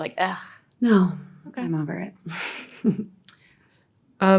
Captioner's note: chuckles